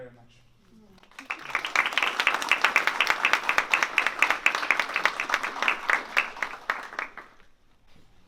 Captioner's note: applause